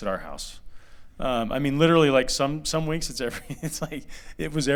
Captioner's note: laughter